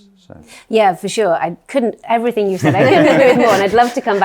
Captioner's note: all laughing